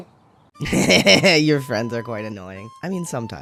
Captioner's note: laugh